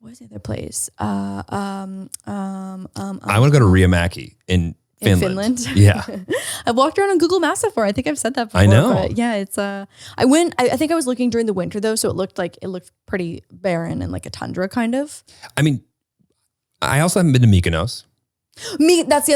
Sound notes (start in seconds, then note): 5.9 laughs